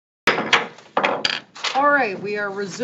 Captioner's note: gavel thuds